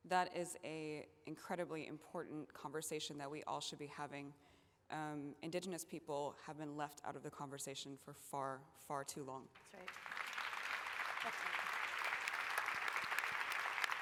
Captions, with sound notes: That is incredibly important conversation that we all should be having. Indigenous people have been left out of the conversation for far, far too long. [APPLAUSE]